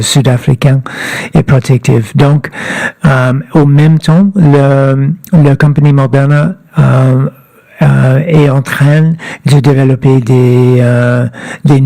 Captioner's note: speaking French